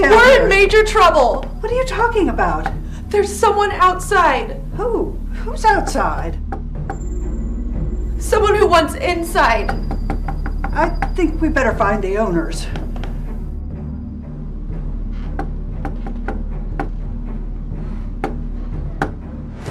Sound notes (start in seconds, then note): 9.6 tapping on door; 14.5 tapping on door; 14.5 tense music